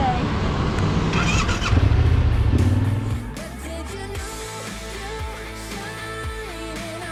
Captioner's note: engine revving; upbeat pop music